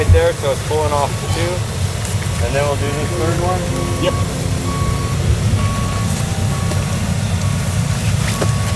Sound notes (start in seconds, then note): 4.8 truck whining